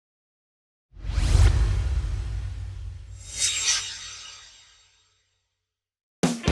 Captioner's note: swoosh